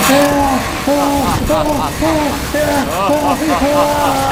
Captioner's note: evil laughter